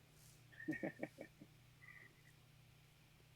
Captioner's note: laughs